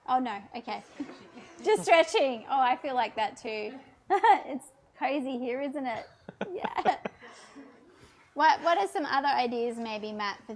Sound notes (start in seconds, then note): 4.0 chuckles; 6.2 laughs